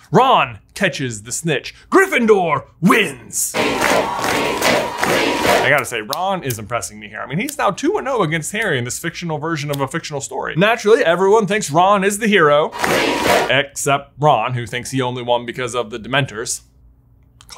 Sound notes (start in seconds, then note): 3.5 students cheering